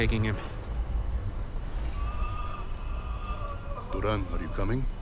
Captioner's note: wailing in pain